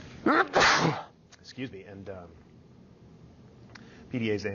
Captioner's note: sneezing